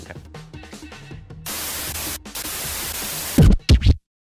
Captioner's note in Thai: เสียงโทรทัศน์; เสียงเอฟเฟ็กต์